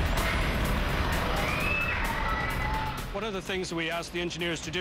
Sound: screaming

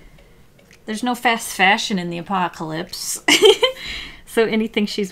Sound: laughs

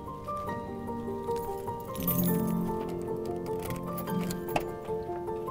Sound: keys jingling

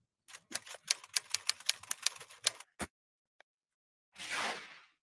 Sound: typewriter clattering

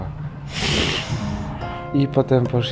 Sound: really loud exhale signaling amusement

